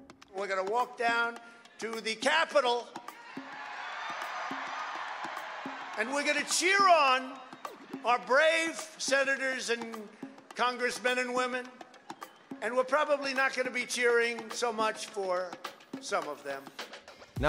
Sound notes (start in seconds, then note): 3.6 audience cheering